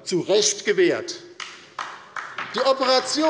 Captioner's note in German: Beifall bei der LINKEN